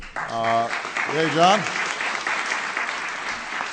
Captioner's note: applause